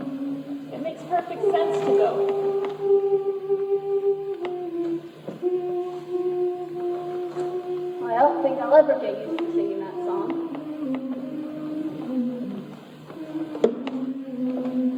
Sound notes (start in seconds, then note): 0.0 girls humming; 1.5 girls humming; 9.9 girls humming